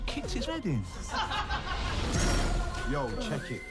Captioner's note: laughter